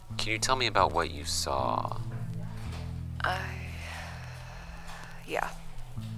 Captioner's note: long, deep breath